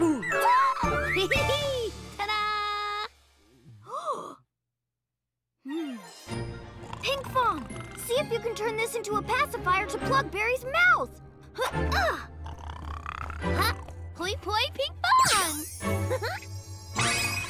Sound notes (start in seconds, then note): 0.7 gasps; 1.5 giggles; 3.8 gasps; 12.2 continues snoring; 16.0 Pinkfong giggles